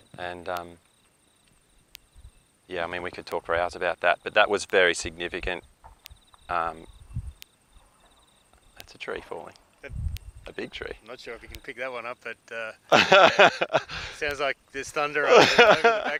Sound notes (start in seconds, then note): 12.9 laughter